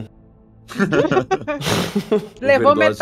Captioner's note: laughs